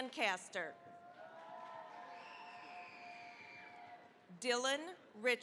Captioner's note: cheering, applause